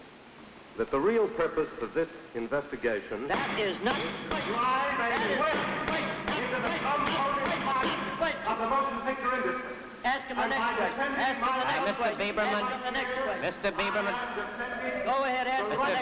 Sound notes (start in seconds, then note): 3.4 gavel banging hard; 3.4 yelling and gavel banging